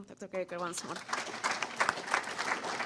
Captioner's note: audience applauding